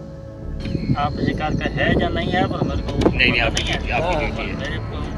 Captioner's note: men chatting